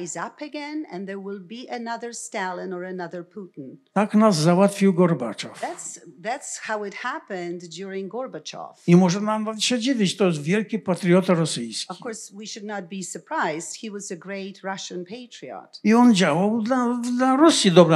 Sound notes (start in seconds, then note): 3.9 foreign language; 8.8 foreign language; 15.7 foreign language